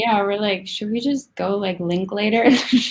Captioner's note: laughs